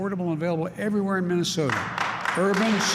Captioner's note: applause